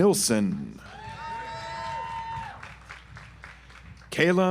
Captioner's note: audience applauds